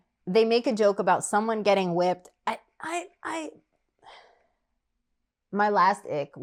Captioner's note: sigh